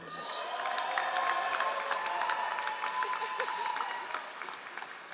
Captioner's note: all applauding